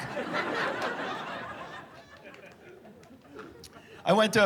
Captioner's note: laughter